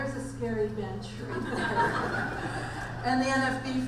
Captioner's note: audience laughs